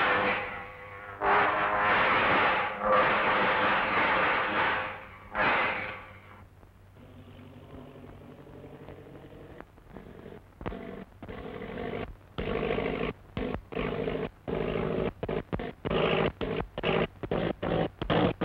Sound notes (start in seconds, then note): 0.0 electricity zapping; 7.6 engine sputtering